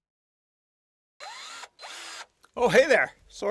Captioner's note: drill machine revving